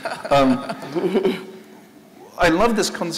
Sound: laughing

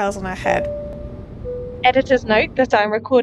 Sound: airplane seatbelt chime

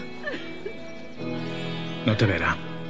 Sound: crying

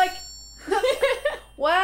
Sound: laughter

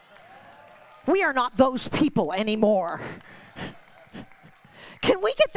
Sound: congregation applauding

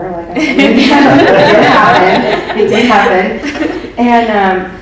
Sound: everyone laughs

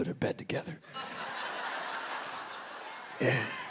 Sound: audience laughing

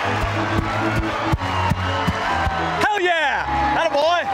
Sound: cheering

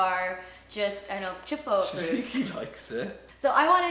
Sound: laughing

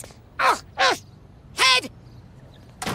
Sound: grunting

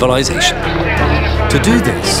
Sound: suspenseful music; people shouting

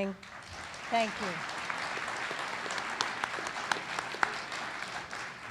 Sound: audience applauds

